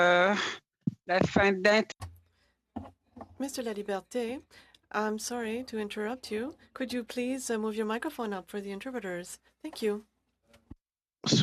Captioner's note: speaking French